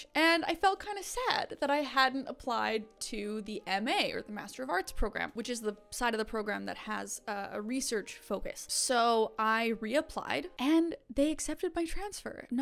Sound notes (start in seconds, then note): none